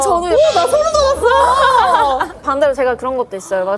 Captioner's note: hahaha